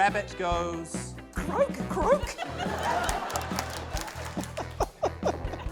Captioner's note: laughter, applause; laughs